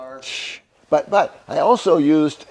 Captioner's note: exhales sharply